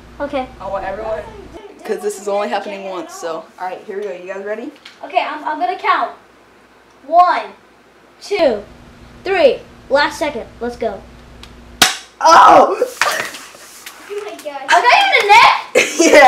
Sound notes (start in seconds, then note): 11.8 shoots Gun; 12.2 yelling in pain